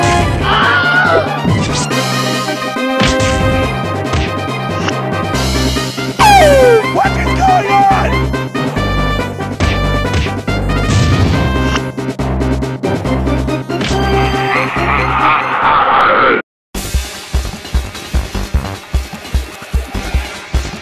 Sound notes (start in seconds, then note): 0.4 Insert Wilhelm Scream Here; 6.5 gasps; 14.2 laughs Evily